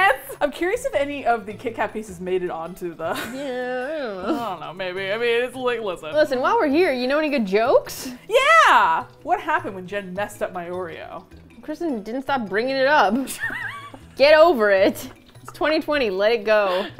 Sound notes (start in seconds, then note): 3.1 laughs; 13.1 laughing